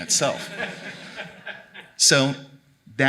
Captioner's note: audience applauding